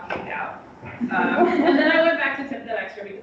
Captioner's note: audience laughing